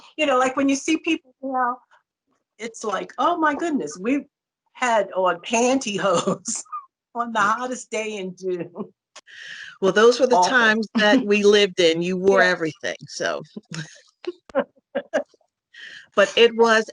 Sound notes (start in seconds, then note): 8.5 laugher; 14.9 laughter